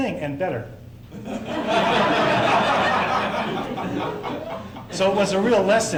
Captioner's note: laughter